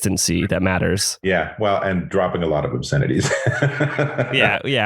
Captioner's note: laughs